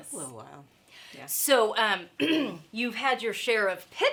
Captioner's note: clears throat